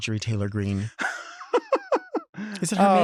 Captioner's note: Robert laughs